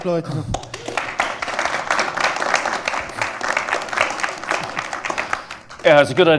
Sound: applause

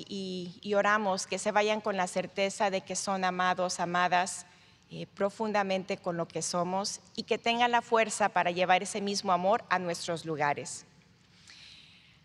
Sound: speaking in spanish

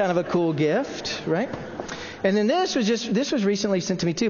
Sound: laughing

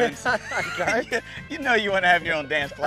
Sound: laughing

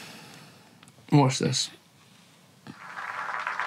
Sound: applause

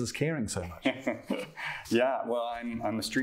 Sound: laughter

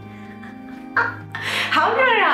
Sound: laughs

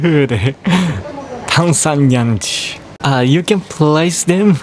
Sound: speaks in japanese

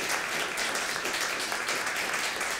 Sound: applause

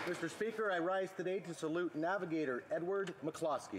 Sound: applause

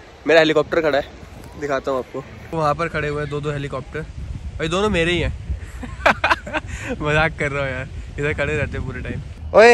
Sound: laughs

